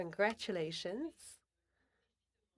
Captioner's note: speaking French